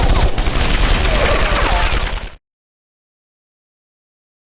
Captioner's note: guard groans